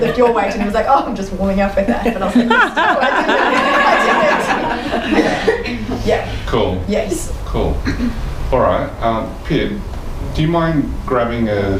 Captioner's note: audience laughter